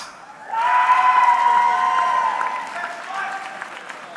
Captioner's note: audience cheering